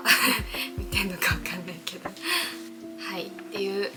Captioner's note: laughs